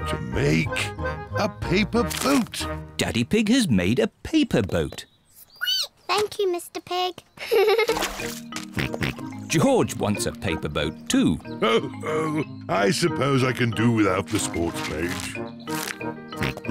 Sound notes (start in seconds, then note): 5.7 squeaks; 7.4 giggles; 7.5 snorts; 11.6 chuckles; 16.5 snorts, chuckles